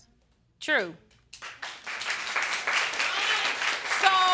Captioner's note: audience applauding